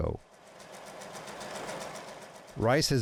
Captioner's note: machine revving